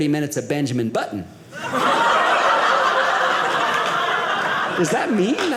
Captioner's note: audience laughing